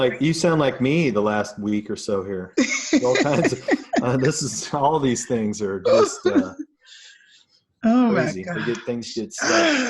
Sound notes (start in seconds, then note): 2.6 laughs